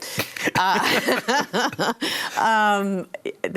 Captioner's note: laughs